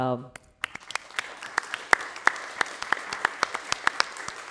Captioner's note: applause